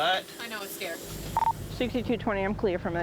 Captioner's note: radio beeping